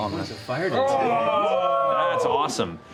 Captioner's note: cheering